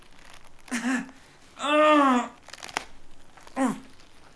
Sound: yells

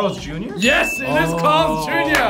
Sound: bell dings

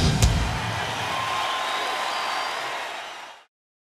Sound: audience cheering

